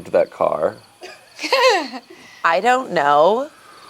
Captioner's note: laughs